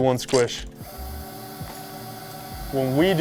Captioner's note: machine whirring